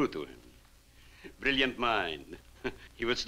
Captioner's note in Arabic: يضحك